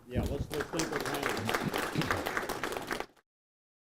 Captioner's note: applause